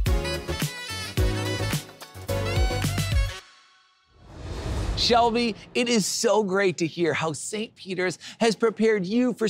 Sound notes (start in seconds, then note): 4.1 graphics whoosh